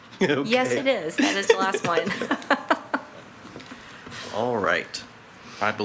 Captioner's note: laughs